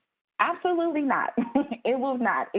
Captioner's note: laughs